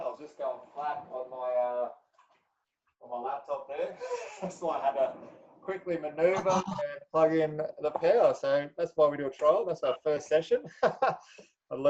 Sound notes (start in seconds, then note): 3.8 laughs; 10.6 laughs loudly